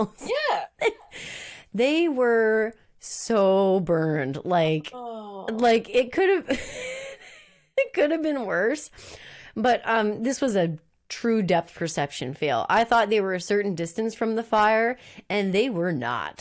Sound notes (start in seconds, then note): 5.0 laughs